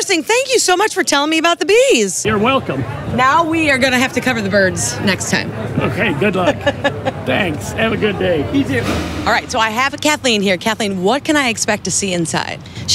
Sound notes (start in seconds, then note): 6.4 laughs